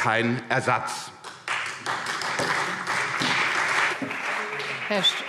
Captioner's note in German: Beifall CDU und BÜNDNIS 90/DIE GRÜNEN